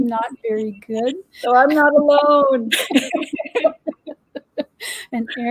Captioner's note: laughter